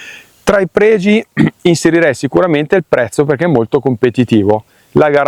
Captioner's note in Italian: schiarire la voce